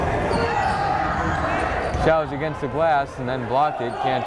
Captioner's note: yelling